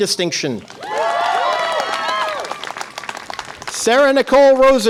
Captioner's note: audience applause and cheer